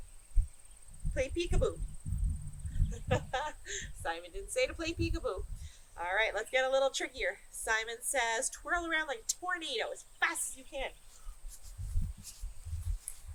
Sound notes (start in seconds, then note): 2.9 laughter